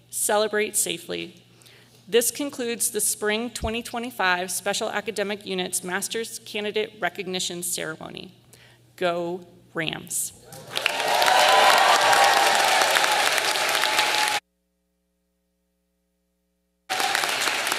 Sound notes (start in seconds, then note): 10.5 audience cheering